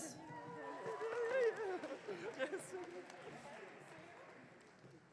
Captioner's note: audience cheering